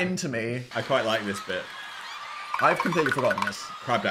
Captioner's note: crowd screaming